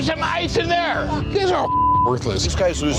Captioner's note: beep